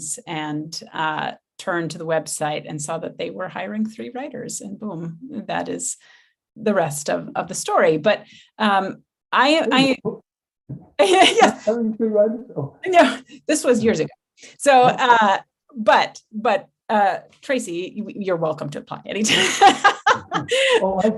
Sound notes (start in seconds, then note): 9.7 faintly speaking; 19.3 laughing